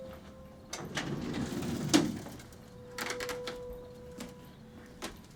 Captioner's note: cabinet clicking